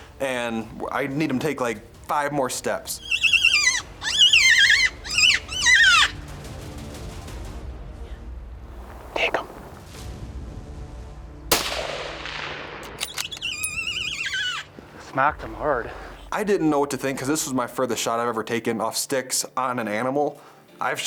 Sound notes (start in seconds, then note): 3.0 screeching; 3.6 intense music; 11.5 rifle bangs and bullet echoes; 12.9 rifle trigger clicks; 13.1 bear screeching